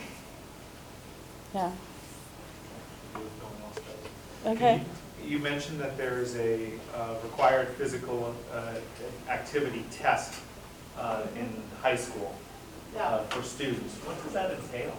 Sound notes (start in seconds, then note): 3.8 murmurs